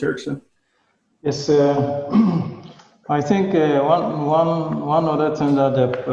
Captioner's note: clearing throat